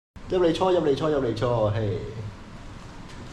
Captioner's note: in India accent